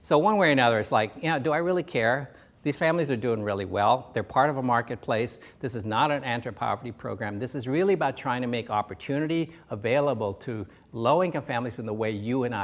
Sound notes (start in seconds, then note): none